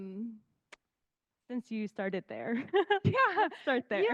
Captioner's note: laughing